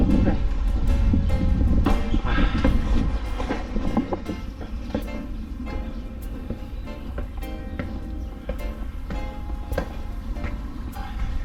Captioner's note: footsteps